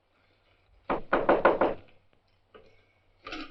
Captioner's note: knocking on door